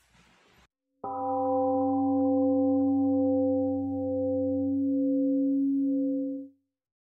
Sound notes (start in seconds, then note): 1.0 temple gong rings and fades